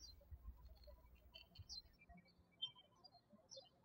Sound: birds chirping

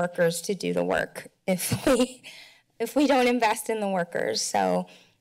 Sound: chuckles

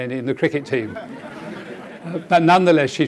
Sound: audience laughing

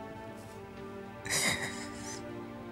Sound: crying

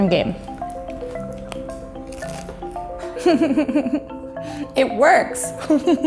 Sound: bread crunching; laughs

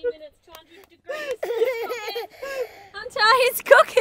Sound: laughing

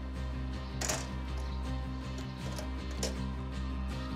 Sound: birds twitter

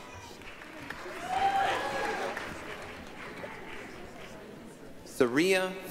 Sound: applause, cheering

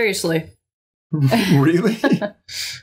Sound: laughter

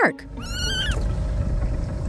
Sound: Marlin meowing

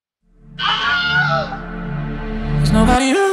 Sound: blood-curdling scream

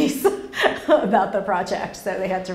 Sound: laughs

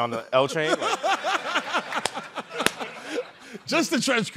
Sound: chuckling

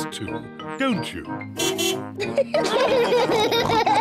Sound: car horn beeps; all laugh

